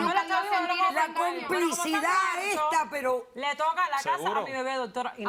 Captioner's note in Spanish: Hablan al unísono